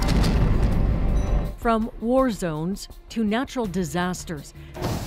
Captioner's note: explosions